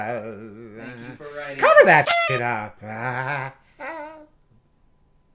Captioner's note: laughing uncomfortably